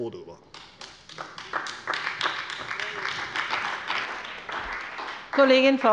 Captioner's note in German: Beifall bei der CDU und dem BÜNDNIS 90/DIE GRÜNEN